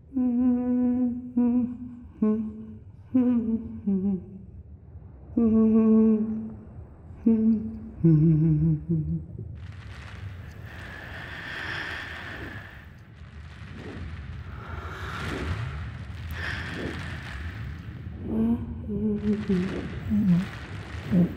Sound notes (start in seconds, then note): 0.2 female humming; 9.8 plastic rustling, whooshing; 18.3 female humming muffles